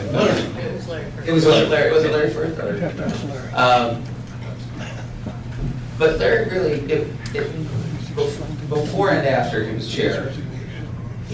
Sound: laughter

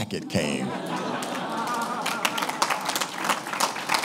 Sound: applauding

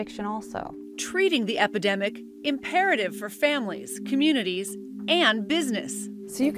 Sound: voice-over

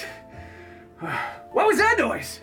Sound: Sub-Zero Sighs

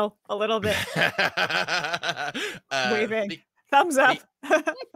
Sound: laughing; laughs; giggling

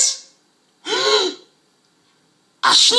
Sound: gasps

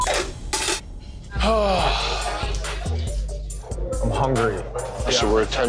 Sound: beep; sighs

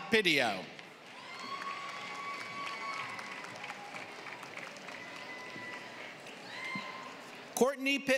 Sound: applause

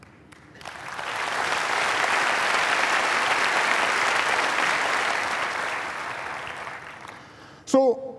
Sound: applause

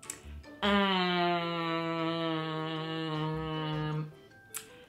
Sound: nasally humming

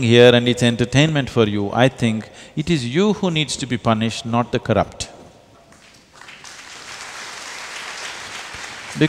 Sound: applause

